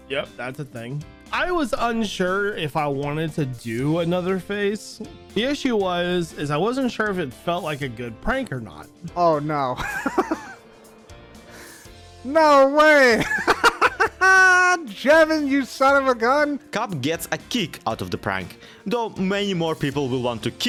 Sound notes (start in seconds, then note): 9.7 laughs; 13.1 laughs louder